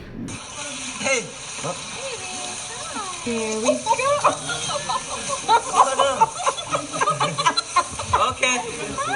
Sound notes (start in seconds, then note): 3.8 laughter